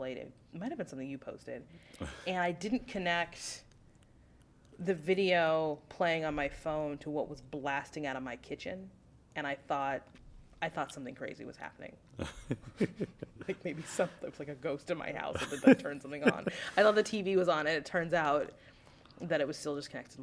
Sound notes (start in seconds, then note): 12.2 laughter; 15.3 laughter